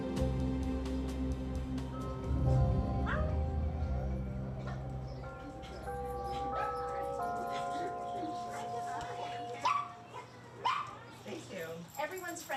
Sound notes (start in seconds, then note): 4.0 clock chiming; 4.6 overlapping chattering; 10.5 dog barking